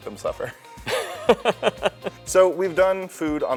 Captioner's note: laughter